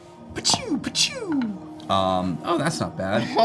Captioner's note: gunshot sounds